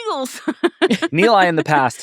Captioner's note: laughing